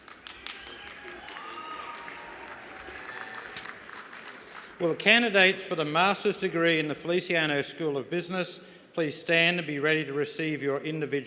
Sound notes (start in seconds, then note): 3.2 cheers and applause